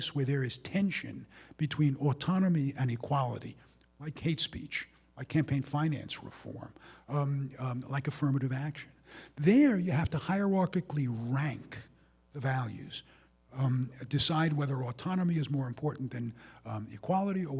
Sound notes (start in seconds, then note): none